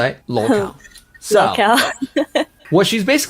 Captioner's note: laughs